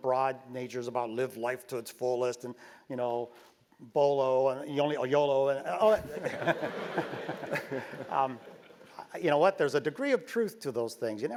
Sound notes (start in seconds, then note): 5.8 laugh